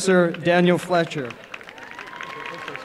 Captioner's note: applause and cheering